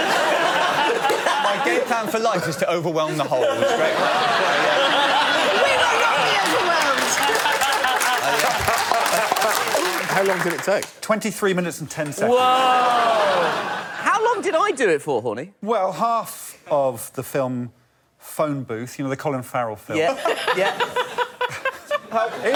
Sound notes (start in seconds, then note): 4.3 applause; 9.1 applause; 12.7 laughter; 20.2 audience laughing